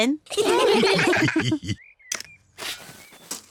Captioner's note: all laugh